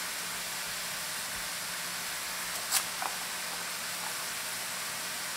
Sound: chopping carrots

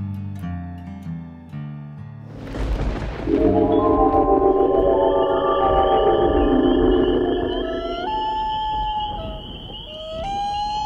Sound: thunder and lightning

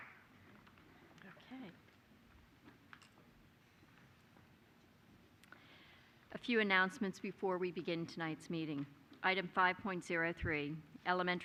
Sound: applause

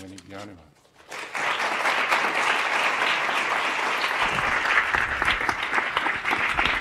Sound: audience applause

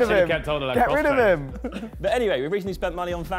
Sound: all laughing

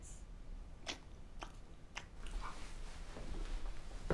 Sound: cud chewing

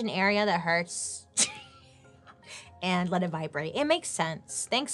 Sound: laughs

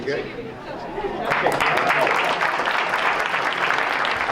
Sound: applause

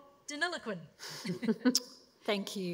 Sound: laughter

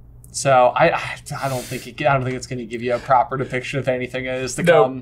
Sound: huffs

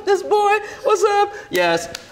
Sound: laughs; hands slap

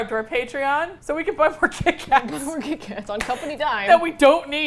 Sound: laughs

